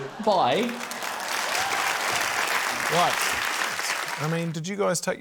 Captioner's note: cheering, applause